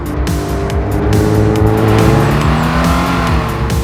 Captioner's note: gear change; exhaust sound; engine REVVING